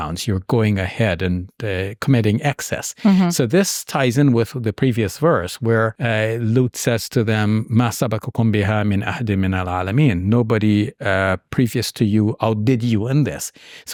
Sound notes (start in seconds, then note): 8.0 speaking in Arabic